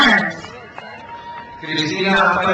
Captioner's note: crowd cheers